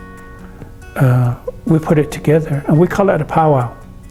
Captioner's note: laughs